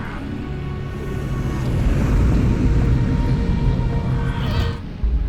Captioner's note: engine revving